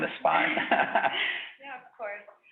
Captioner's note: laughs